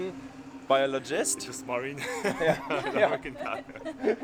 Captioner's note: laughs